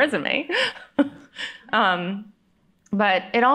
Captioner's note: laughs